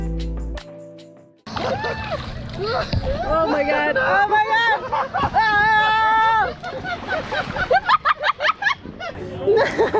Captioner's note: laughing